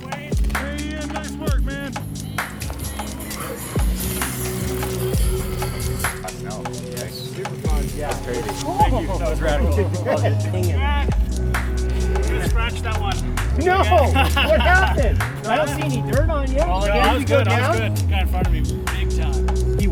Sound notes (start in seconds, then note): 4.0 mellow electronica music continues; 13.4 man laughing